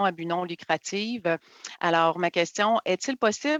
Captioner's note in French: voix de l'interprète